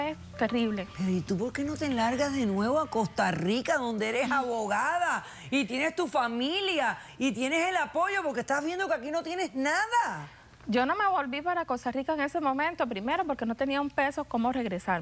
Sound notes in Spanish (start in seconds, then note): none